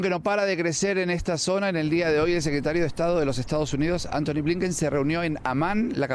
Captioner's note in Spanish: HABLAN EL INGLéS